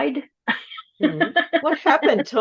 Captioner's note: laughs